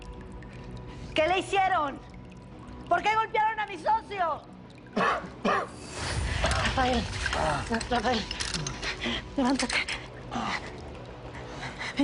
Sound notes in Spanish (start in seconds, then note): 5.4 Rafael tose